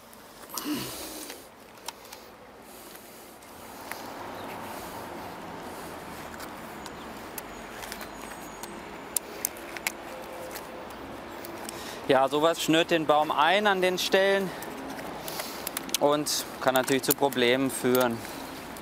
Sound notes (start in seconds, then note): 0.2 moaning; 7.2 birds chirping